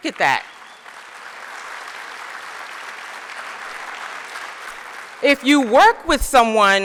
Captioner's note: applause